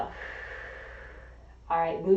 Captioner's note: exhaling; inhaling